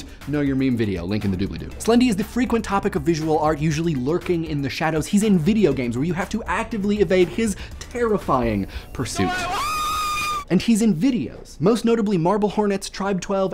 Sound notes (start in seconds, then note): 9.2 screams